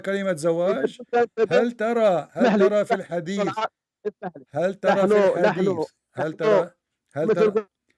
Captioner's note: Ketawa